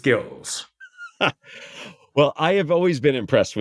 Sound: laugh

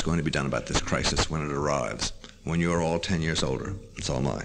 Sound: none

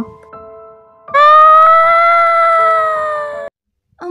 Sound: epic scream

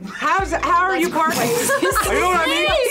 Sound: laughs

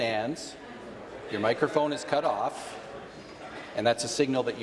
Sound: conversation din

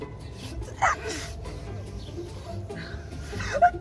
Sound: sneezing

